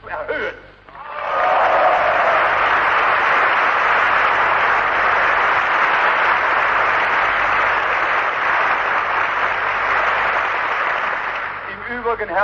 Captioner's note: applause